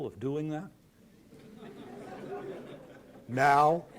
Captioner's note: laughter